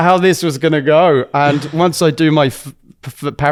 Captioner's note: laughs